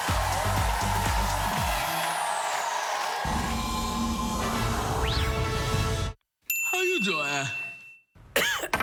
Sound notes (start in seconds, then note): 4.5 cheers and applause